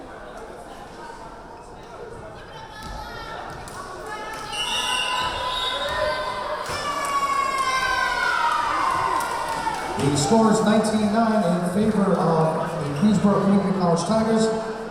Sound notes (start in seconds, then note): 4.5 whistle blowing; 8.5 yelling